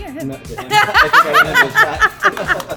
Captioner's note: laughing